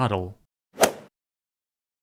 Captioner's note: swoosh